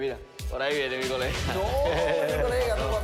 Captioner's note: laughs